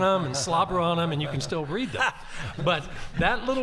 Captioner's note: group laughing